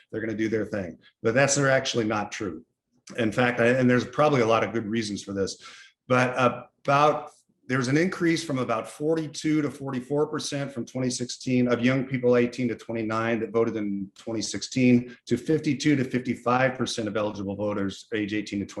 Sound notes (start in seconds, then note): none